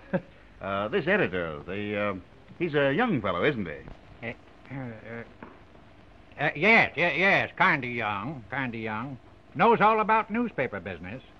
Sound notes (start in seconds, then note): 3.8 stammering